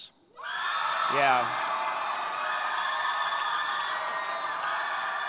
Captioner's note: audience clapping